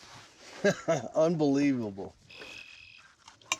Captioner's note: chuckles